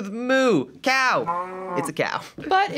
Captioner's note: cow mooing